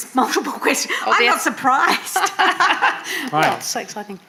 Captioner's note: laughing